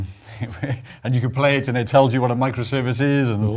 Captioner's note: laugh